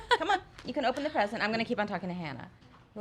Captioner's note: laughs